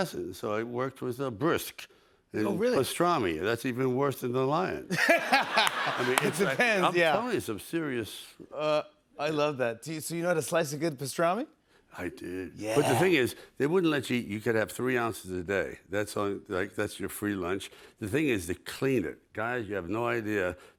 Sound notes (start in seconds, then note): 4.9 laughter